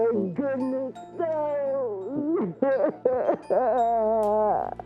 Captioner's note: laughs